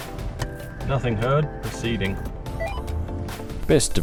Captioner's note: Uniden CB roger beep